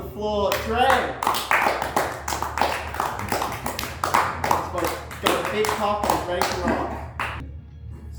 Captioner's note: applause